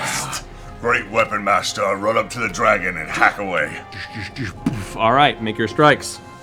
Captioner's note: laughs